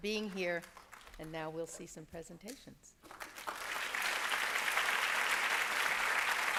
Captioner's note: applause